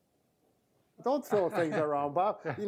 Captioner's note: laughs